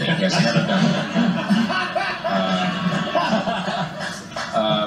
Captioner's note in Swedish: Alla skrattar, mest högljutt